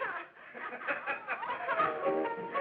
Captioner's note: laughing; merry piano music; laughing